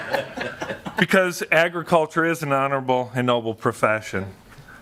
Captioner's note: laughter